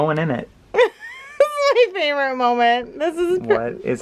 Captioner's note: laughs